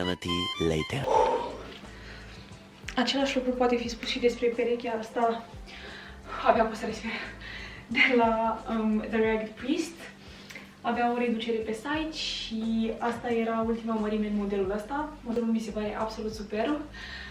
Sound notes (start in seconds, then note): 7.3 struggles to breathe